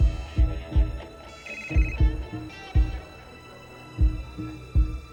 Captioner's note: buttons beeping; phone ringing